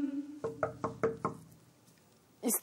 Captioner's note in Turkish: Kapı çalıyor